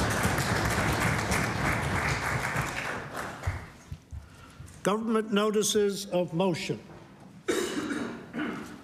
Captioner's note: applause